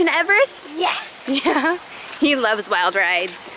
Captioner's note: chuckles